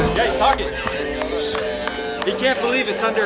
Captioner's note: radio chatter